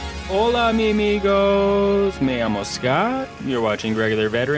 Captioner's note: foreign language